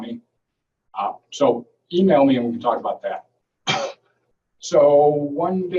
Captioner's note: coughing